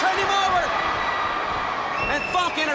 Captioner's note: crowd cheering